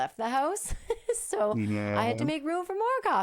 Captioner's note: laughing